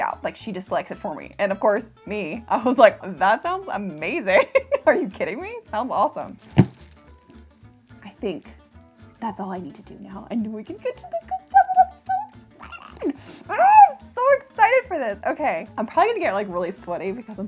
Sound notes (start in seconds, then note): 4.4 laughs; 6.9 upbeat music